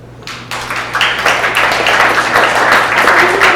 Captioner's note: applause